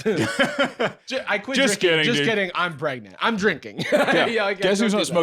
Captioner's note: laughs; laughs